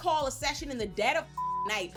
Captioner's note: beep